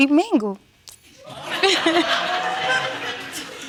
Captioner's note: audience laughing